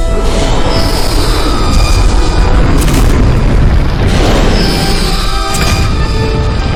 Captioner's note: explosions booming; dinosaur roaring